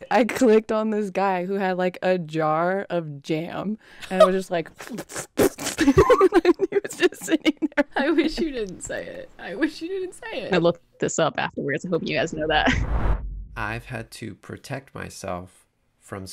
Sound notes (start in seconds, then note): 4.8 blowing raspberries; 5.5 laughs